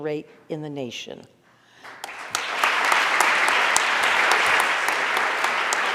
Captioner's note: audience applauding